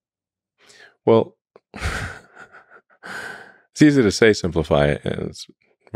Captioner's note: laughs